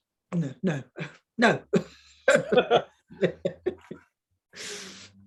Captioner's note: woman chuckling